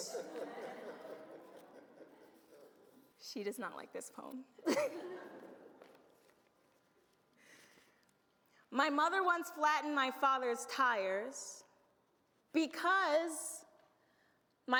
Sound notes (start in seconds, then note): 0.0 audience laughs; 4.7 audience laughs